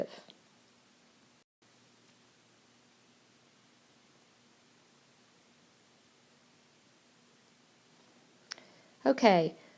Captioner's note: silence